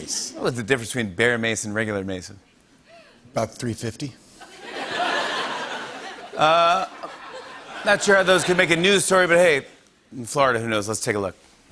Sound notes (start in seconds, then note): 4.4 laughter